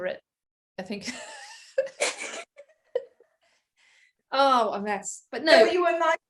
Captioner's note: heheheh